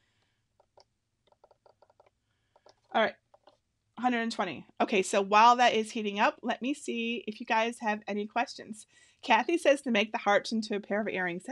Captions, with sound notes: (button clacking) All right, 120. Okay, so while that is heating up, let me see if you guys have any questions. Cathy says to make the hearts into a pair of earrings.